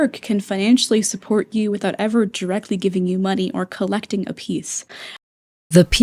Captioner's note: inhale